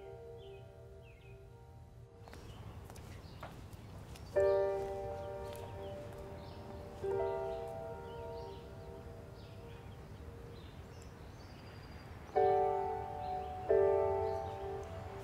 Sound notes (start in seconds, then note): 0.1 birds chirping; 2.2 footsteps tapping